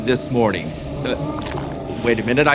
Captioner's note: monster noises